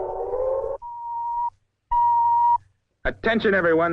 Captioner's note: missile beeping